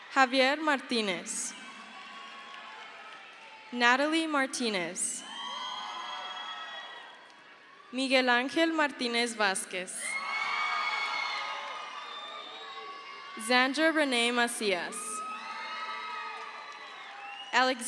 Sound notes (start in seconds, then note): 4.0 crowd cheers; 10.8 crowd cheers; 15.9 crowd cheers